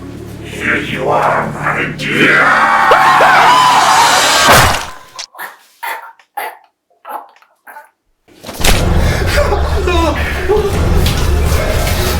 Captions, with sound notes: - Here you are, my dear. (Growling) (All screaming) (Men whimpering)